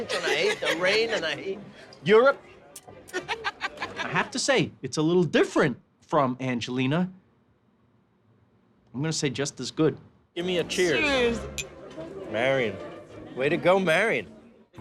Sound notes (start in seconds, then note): 3.1 laughs